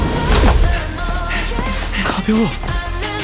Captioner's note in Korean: 형석의 거친 숨소리; 형석의 힘찬 숨소리